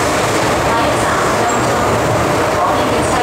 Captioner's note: Cantonese